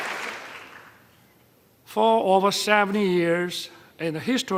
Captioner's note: applause